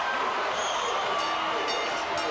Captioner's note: crowd cheering; bell ringing